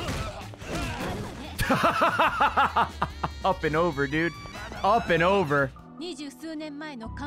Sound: laughs

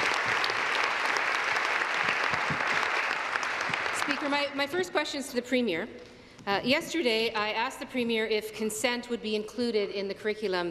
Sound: applause

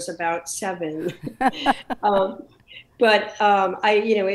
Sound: laughing

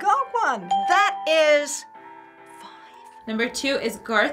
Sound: whispers

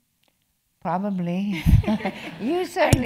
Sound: laugh

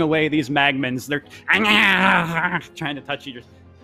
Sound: growls

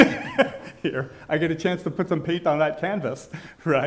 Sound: laughing

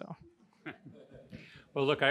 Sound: audience laughing

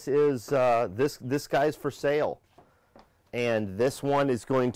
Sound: shoes clatter

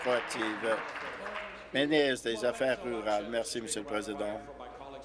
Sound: applause

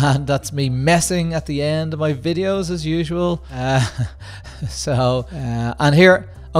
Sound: laughs

